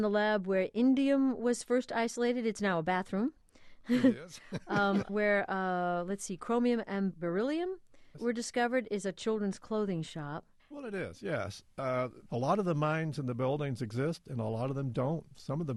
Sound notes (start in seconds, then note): 3.9 chuckling; 4.4 more laughter